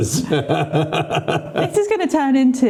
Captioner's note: laughing